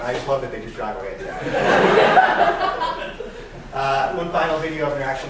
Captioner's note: laughing